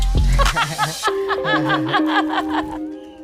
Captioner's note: laughing